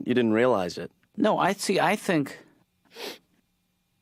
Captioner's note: sniff